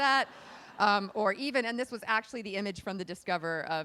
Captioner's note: laughing